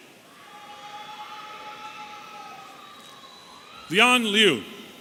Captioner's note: audience cheering